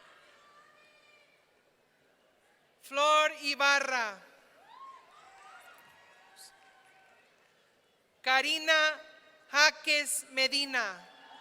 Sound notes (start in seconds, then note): 4.6 audience cheering; 11.1 audience cheering